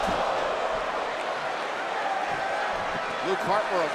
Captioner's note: crowd cheers